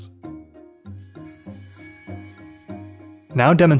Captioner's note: light chimes